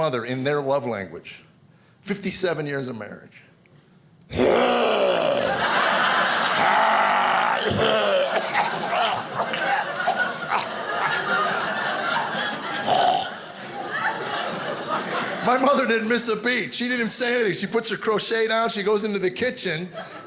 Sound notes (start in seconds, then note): 4.2 growing and snorting; 7.8 coughing and hacking; 8.9 audience laughing